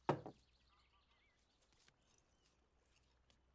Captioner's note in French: gazouillis d'oiseaux